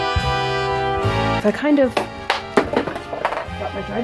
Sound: clatter

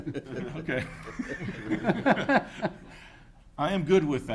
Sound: all laughing

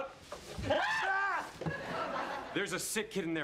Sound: screaming

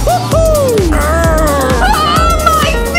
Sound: grumbles

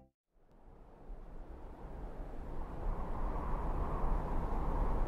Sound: wind blows

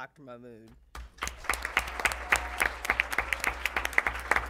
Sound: applause

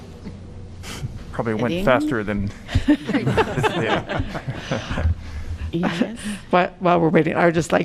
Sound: laughter

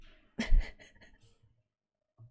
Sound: laughs

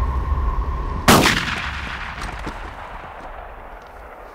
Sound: gunshot booms

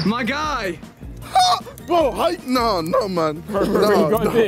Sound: screams

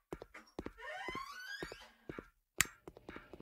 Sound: door opening

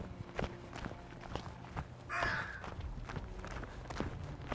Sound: crow cawing

